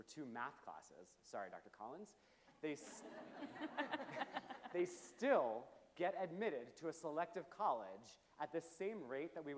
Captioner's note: chuckles from panel and audience